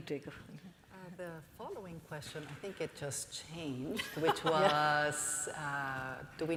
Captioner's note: laughter from panelists